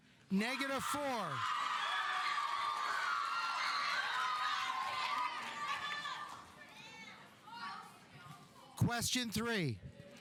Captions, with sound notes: (audience applauding) (audience cheering) Question three.